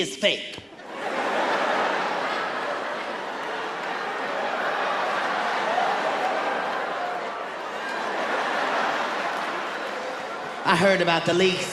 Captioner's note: laughter